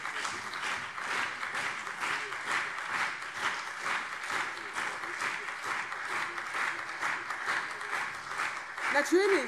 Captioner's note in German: Beifall CDU und SPD